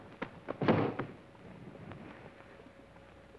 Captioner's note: foot thuds